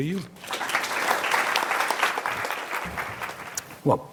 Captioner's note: applause